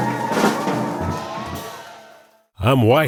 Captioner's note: crowd cheers